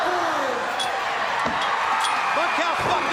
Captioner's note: crowd cheering